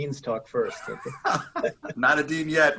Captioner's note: laughter